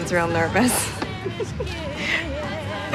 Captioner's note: laughs